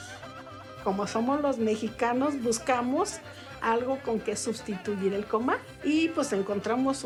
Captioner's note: in Spanish